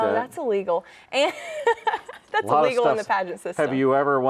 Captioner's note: laughs